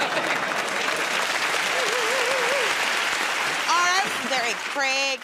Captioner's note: applause